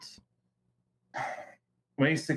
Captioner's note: sigh